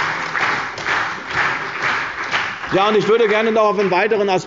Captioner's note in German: Beifall bei der CDU und dem BÜNDNIS 90/DIE GRÜNEN